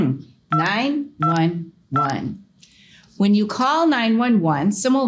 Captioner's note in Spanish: pitido telefónico